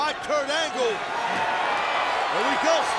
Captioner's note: audience cheering and clapping